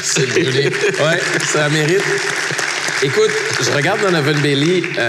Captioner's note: applause